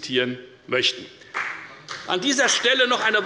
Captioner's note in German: Beifall